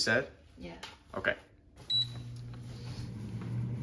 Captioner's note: beeps